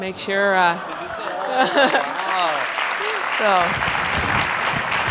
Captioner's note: applause